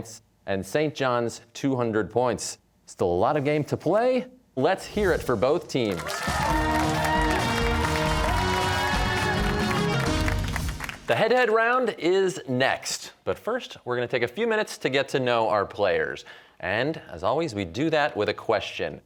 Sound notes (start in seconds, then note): 5.8 cheers and applause